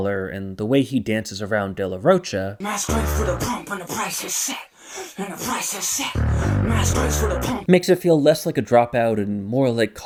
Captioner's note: bang